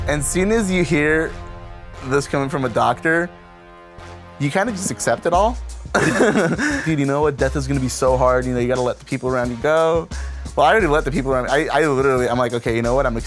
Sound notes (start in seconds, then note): 5.9 laughs